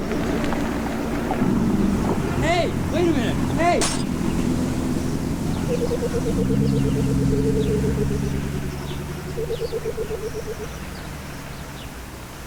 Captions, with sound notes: - Hey, wait a minute, hey. (car engine revving) (birds chirping)